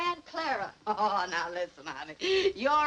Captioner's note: laughs